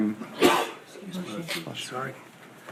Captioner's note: man sneezes